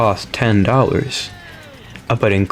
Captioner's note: inhales Oxygen